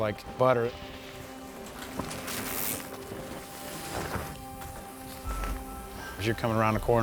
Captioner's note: bikes riding past